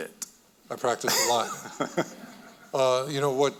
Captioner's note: chuckling